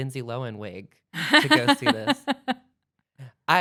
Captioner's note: laughs